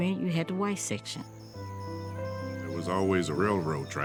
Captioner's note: insects chirping